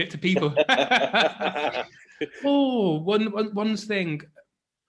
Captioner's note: laughing